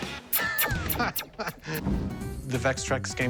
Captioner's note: laughs